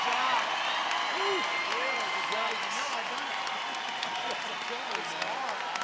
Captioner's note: audience applauding; crowd murmuring